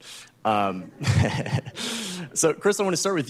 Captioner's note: laughter